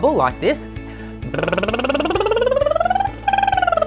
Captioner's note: lip bubbling